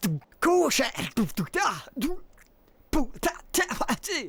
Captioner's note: beatboxing